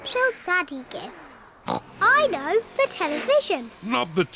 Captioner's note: oinks